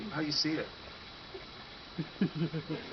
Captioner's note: audience laughter